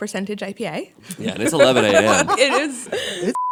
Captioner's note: laughter